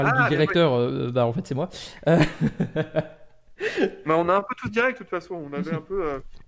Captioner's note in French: rires